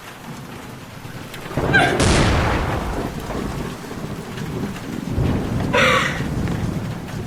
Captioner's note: thunder cracks